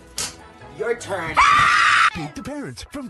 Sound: mom screams

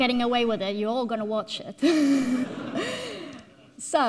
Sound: all laughing

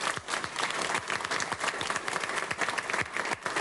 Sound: applause

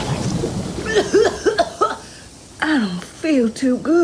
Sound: meteor explodes; H2O coughs

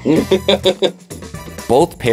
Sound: laughs

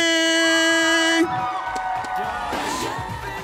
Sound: audience cheering

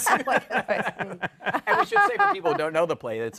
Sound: laughter

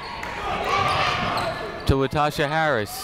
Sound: people shouting in the crowd

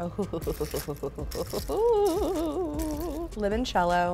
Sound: laughs

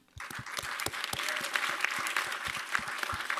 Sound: applause

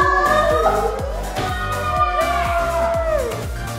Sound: cheering

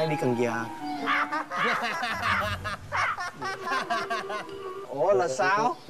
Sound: laughter

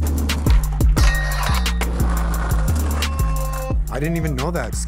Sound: metal whining

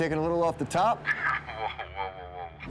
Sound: chuckles

